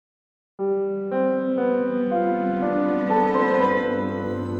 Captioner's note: bells chiming